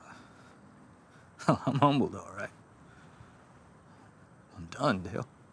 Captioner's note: laughing